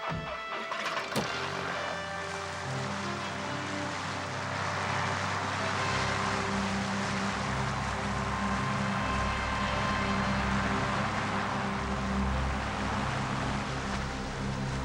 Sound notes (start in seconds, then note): 0.6 motor whirring